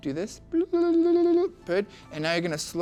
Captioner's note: makes animated sounds